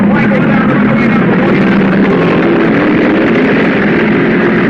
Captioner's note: cars revving